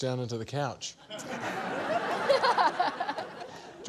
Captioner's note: laughter